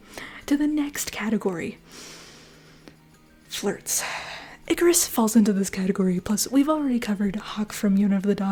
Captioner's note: inhale